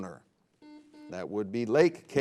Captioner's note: buzzer beeping